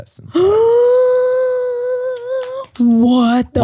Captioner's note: sighs deeply